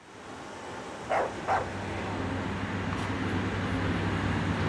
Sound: dog barks

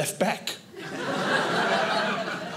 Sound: audience laughing

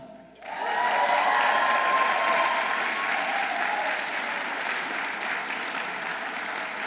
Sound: audience applauding; audience cheering

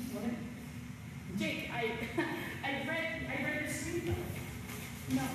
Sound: chuckle

